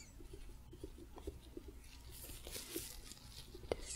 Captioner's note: light tapping, glove sounds